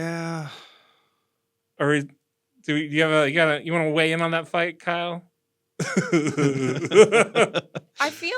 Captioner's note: laugh